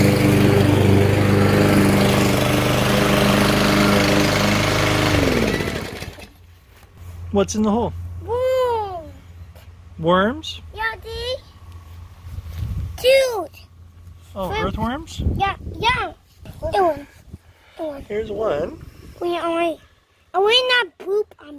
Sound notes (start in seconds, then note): 4.8 lawnmower shuts off; 8.8 muffled by pacifier